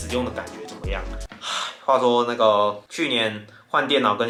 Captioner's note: sigh